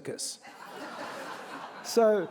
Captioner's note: audience laughing